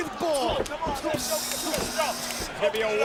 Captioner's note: Taz buzzes